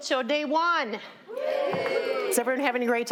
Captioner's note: all cheering